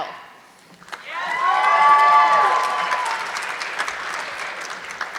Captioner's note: audience clapping